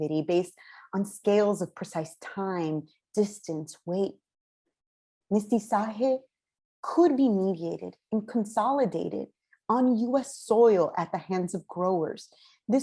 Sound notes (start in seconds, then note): 5.3 non-english speech